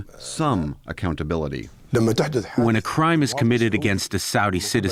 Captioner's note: through translator